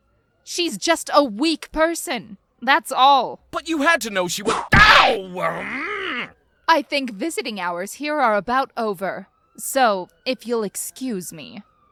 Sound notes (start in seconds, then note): 4.4 whip crack!; 5.3 growls!